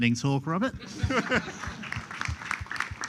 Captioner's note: applause